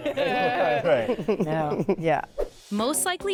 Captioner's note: all laughing